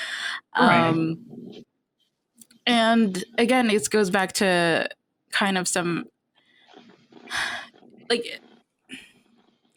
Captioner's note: sighs